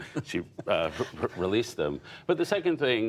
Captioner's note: laughter